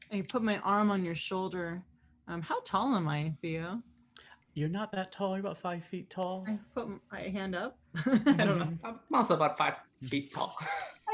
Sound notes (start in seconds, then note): 8.0 laughs